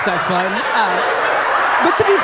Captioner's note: audience laughing